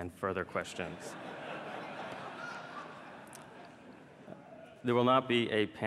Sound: laughter

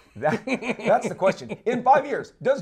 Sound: laughs

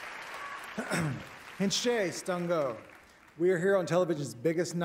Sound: clears throat; non-english speech

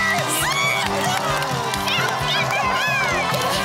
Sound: cheering

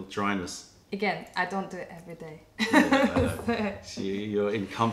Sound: laughter

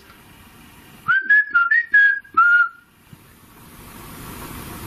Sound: whistles

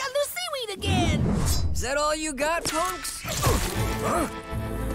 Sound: grunting

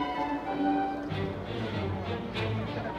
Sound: people chattering indistinctly; intense orchestral music

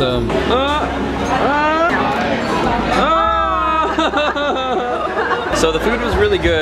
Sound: all enthusiastically yelling

